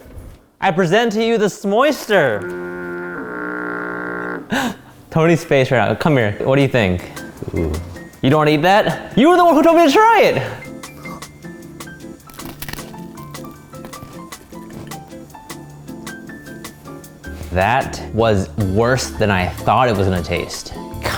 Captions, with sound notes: I present to you, the s'moyster. (laughs) Tony's face right now. Come here. What do you think? - Ooh. - You don't wanna eat that? You were the one who told me to try it. (crunch) - That was worse than I thought it was gonna taste.